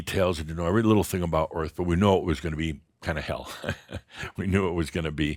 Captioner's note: Adamus chuckles